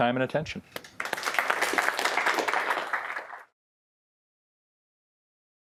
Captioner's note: audience applauding